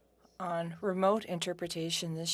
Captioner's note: speaking French